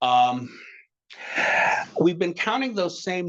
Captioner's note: sighing